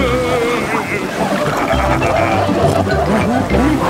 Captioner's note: laughing, snorting